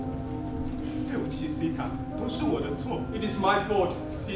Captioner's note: speaking in a foreign language